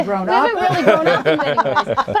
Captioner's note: laughing